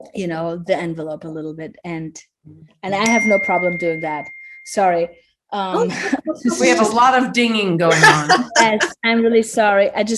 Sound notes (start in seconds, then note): 3.0 phone dings; 7.9 laughs